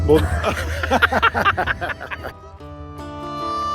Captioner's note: laughing